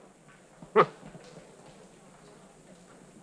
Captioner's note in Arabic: يسخر